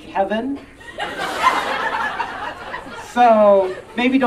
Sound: audience Laughing

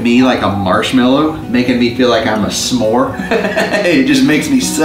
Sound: laughs

